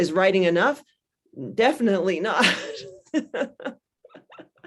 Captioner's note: laughs